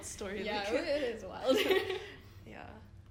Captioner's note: giggle; laughs